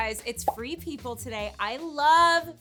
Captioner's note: notification popping